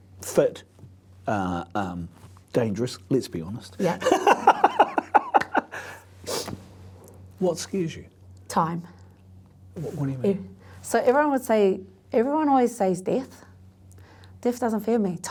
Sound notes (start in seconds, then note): 3.8 laughs